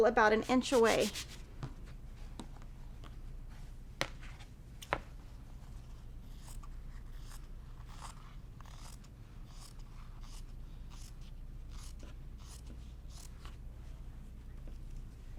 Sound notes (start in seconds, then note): 6.8 scissors snipping